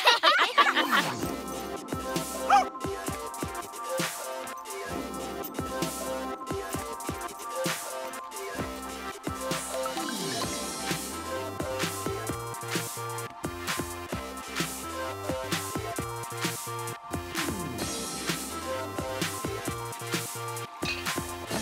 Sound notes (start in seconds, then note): 0.8 bark; 1.9 dance music on stereo